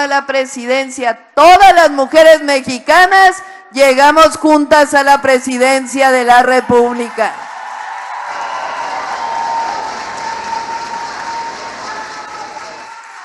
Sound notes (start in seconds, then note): 10.6 applause